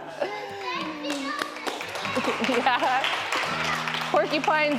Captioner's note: laughs; clapping